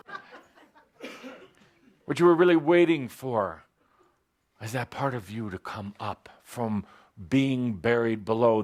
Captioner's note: laughter